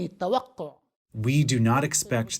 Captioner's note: through translator